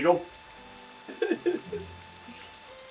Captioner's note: sobbing subsides